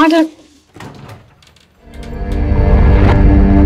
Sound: door opens

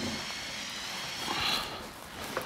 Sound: distant drilling, groaning

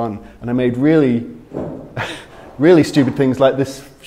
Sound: chuckles

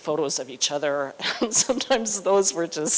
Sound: laughter

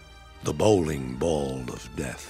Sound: none

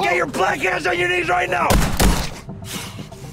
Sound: gunshots

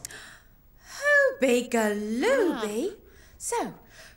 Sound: gasps

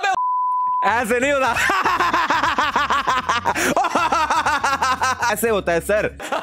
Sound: proceeds to laugh and show him how it's done

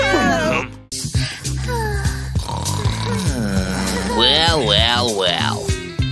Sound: moaning

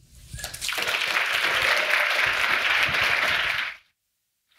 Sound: audience applauding

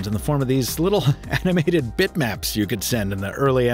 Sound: chuckling

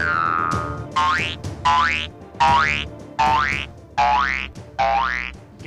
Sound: multiple spring boings; spring boing

